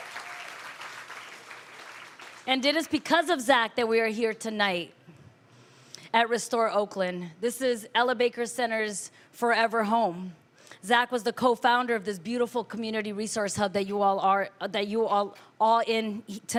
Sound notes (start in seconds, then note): 2.0 applause